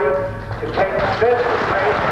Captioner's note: applause